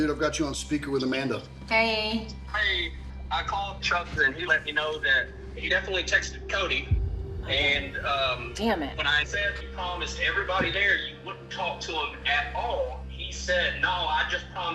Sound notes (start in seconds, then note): 2.7 on phone